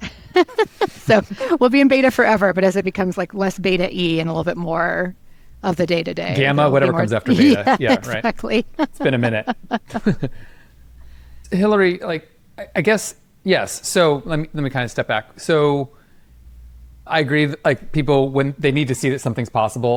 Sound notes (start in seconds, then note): 0.0 laughs; 10.3 chuckles